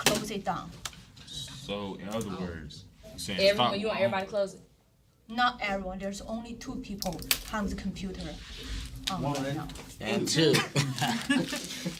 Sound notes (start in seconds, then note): 1.1 students murmur